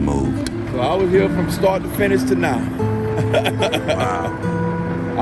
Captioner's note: laughs